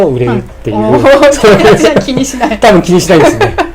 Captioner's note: laughing